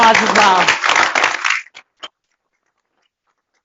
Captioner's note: applause